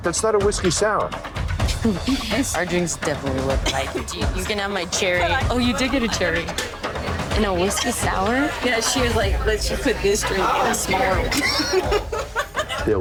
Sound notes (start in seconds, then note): 1.7 chuckles; 11.6 laughter